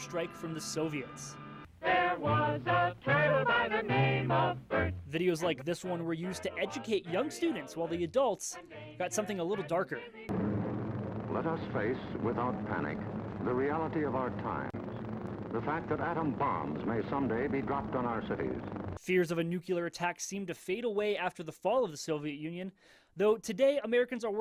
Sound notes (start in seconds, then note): 10.4 old Crackly Video Playing